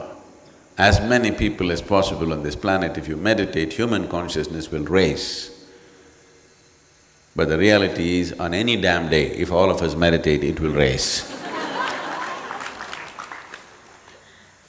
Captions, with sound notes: as many people as possible on this planet if you meditate, human consciousness will raise but the reality is on any damn day if all of us meditate, it will raise. (Laughter)